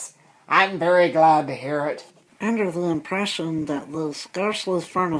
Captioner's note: none